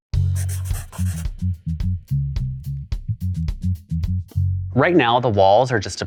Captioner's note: jazz music; pencil scribbling